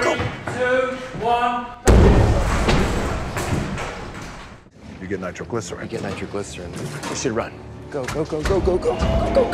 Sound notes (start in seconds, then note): 1.8 explosion